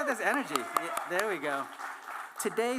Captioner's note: applause